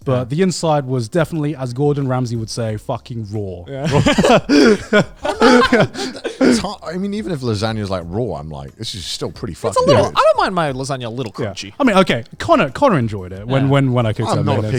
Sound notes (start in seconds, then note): 3.8 chuckling; 3.8 giggling